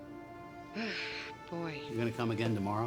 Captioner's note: sighing